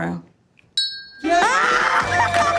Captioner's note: ding; crowd cheering